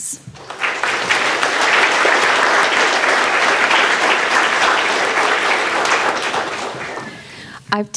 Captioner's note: audience applauding